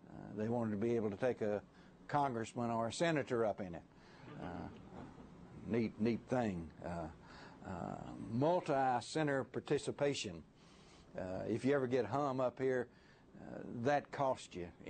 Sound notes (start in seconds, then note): 5.0 laughter